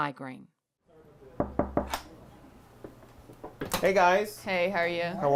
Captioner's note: knock on door